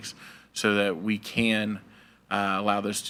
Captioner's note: none